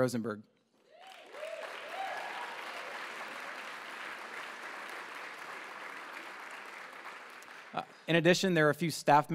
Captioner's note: applause